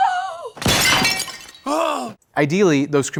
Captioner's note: urn crashing